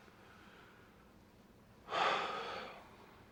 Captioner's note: sighs